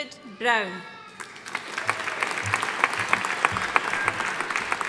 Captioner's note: audience applauding